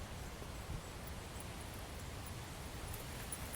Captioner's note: wind sound